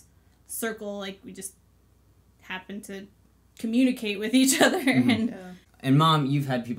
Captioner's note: laughs